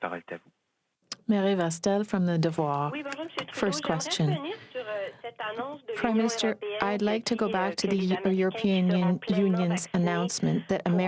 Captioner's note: speaking french